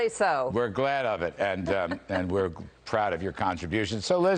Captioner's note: laughter